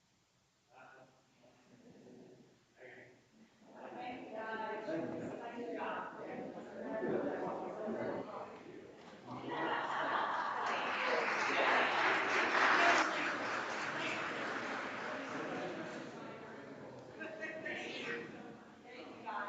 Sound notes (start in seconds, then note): 3.9 people chattering distantly; 9.5 audience applauds; 15.9 people speak distantly